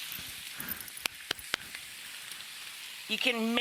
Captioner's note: hands clapping